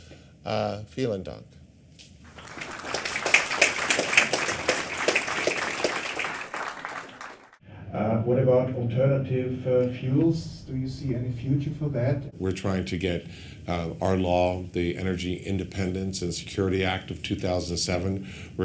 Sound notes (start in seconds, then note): 2.2 applause